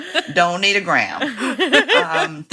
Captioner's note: laughter